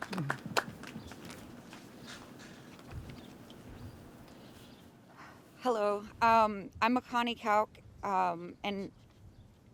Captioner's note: applause